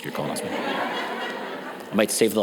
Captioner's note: audience laughs